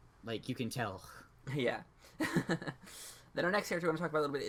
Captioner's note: laughs